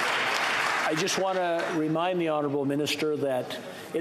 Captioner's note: applause